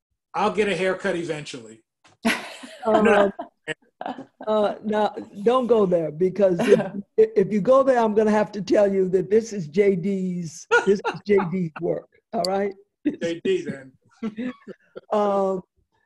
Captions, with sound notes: - I'll get a haircut eventually. (laughs) - Now, don't go there. Because if you go there, I'm gonna have to tell you that this is JD's work, all right. (laughs)